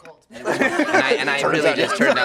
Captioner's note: laughter